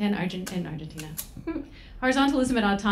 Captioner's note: laughs